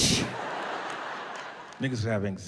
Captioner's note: audience laughing